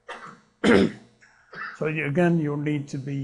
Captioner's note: clears throat